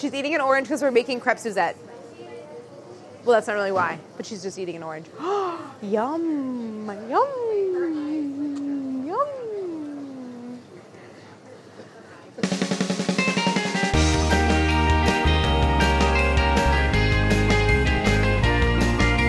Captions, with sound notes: She's eating an orange because we're making Crepe Suzette. Well, that's not really why but she's just eating an orange. [gasps] Yum! Yum! Yum! [upbeat music]